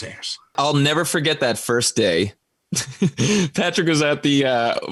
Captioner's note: laughs